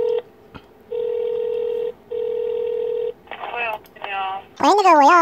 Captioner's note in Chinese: 電話撥號音